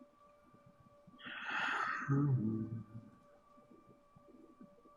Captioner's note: sighs and hums